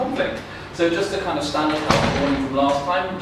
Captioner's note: background noise interferes